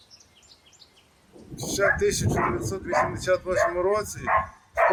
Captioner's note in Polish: po ukraińsku